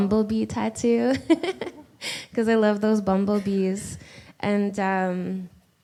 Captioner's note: laughs